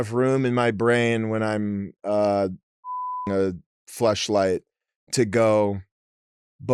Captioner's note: beep